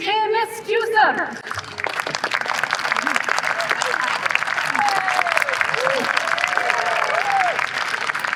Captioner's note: applause